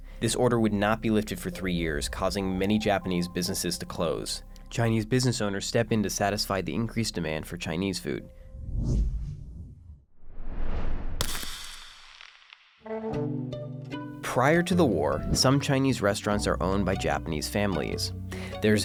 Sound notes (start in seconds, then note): 8.5 swooping; 11.2 shattering